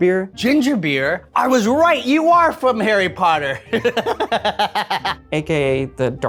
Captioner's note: laughs